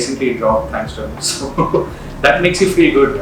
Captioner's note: laughs